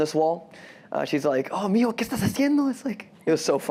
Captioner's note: speaks spanish